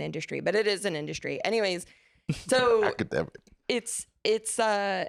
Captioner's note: laughing